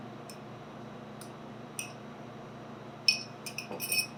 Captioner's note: spoon clinking